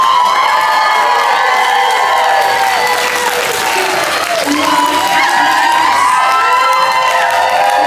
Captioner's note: cheers; laughter and cheers